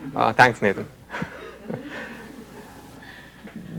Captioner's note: chuckles